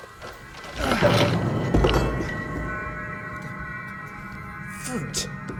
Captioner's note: crowbar clangs